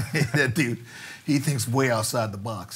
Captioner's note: laughs